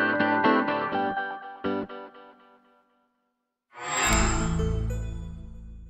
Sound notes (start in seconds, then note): 3.8 microsoft sound